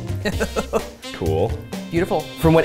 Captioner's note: laughs